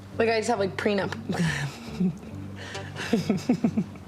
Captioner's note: laughs